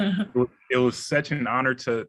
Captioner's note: laughing